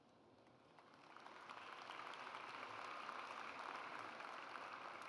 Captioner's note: audience applauds